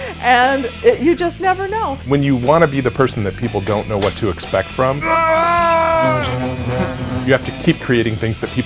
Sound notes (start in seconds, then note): 6.1 shouting